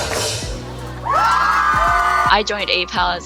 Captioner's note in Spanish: todos vitoreando